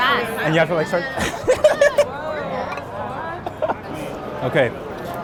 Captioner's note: laughs